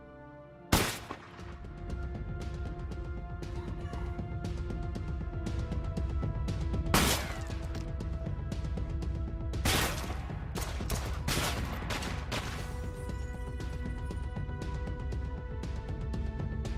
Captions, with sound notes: [ GUNSHOT ] NO! RAYMOND! DEMBE! [ GUNSHOTS ]